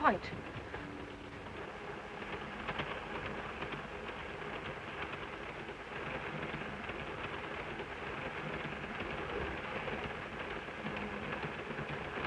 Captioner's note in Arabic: صوت خشخشة القطار